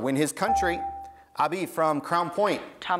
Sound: buzzer beeps

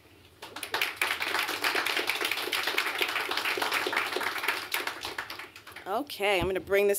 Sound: applause

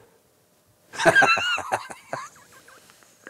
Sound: laughing

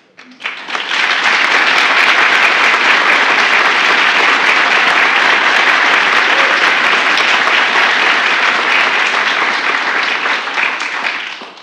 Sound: applause

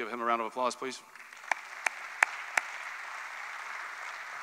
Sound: applause

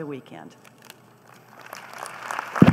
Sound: applause

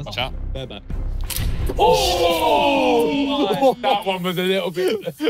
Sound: everyone exclaiming

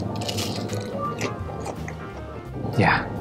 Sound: crunches

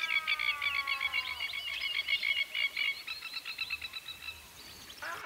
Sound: lapwing strident calls

